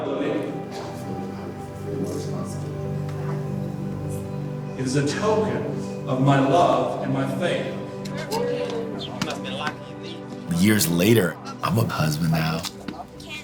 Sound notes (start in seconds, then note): 0.1 slow music; 8.2 people chattering